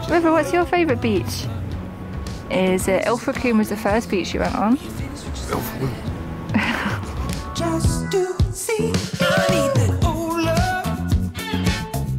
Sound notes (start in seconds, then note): 5.4 in a dog voice